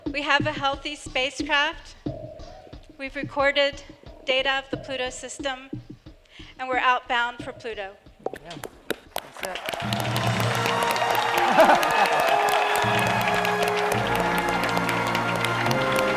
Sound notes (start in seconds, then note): 8.9 cheers and applause